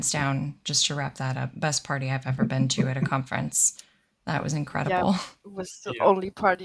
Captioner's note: laughter